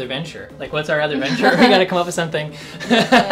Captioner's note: laughs